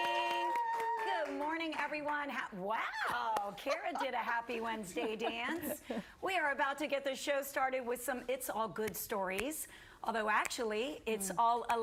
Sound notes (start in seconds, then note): 1.6 applause